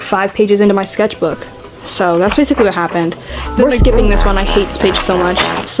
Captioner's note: fart sounds